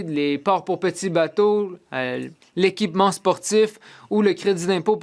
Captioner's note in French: voix de l'interprète